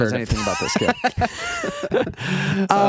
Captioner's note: laughing